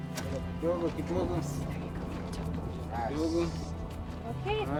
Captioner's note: thunder